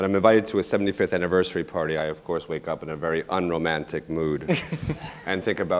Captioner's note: laughter